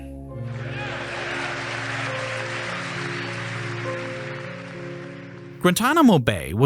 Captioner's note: gentle contemplative music; audience applauding